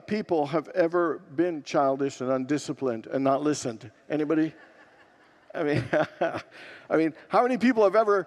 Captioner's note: congregants laugh